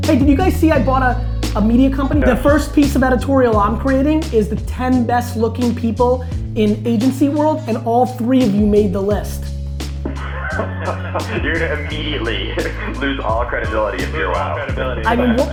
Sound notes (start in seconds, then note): 10.0 laughter